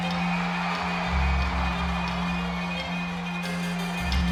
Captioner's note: crowd cheering; upbeat music